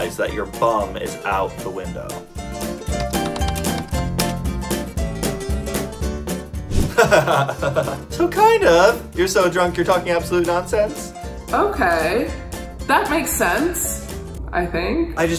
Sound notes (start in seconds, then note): 3.1 upbeat music; 6.9 laughs